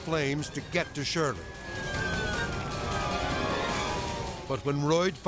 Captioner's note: siren blaring